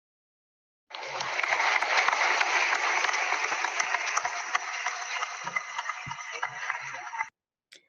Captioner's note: applause